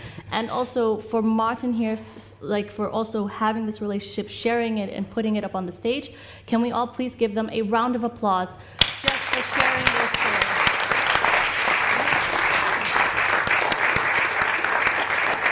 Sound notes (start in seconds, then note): 11.0 audience applauds